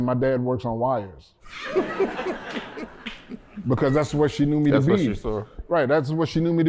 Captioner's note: laughter